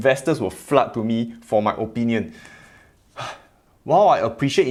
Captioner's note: sighs